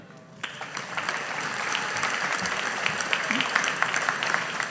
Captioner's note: audience applauding